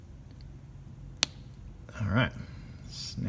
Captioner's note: snap